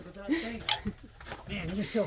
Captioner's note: laughter